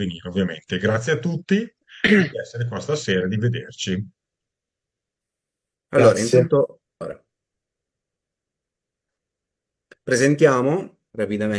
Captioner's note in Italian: schiarire la voce